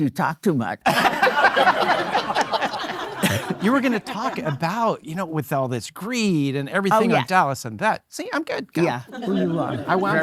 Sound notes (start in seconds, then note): 0.9 laughing; 0.9 audience laughing